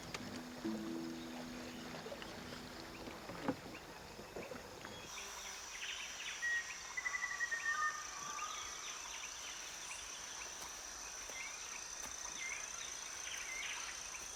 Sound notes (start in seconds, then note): 0.0 water sloshing; 5.0 intense forest commotion